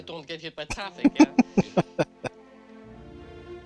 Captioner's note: laughing